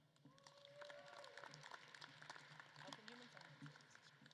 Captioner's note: audience claps